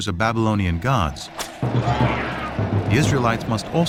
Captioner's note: whip cracks, man yells